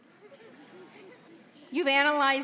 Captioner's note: audience laughing